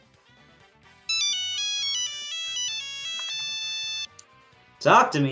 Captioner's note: phone rings